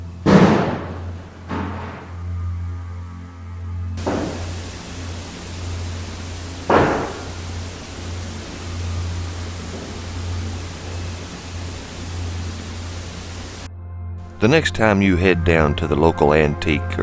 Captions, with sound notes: (loud bang) (banging) (banging) (footsteps) The next time you head down to the local antique